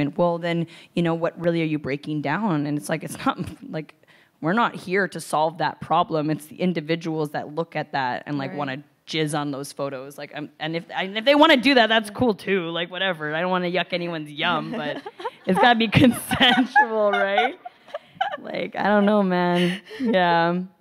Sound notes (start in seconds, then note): 17.0 laughs